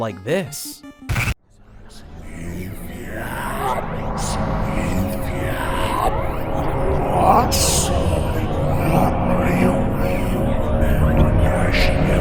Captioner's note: creepy sound effects